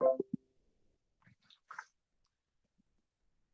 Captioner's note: beep